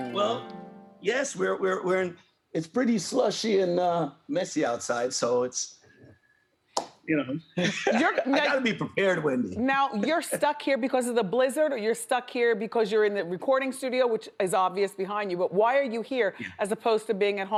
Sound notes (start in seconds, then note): 7.6 laughs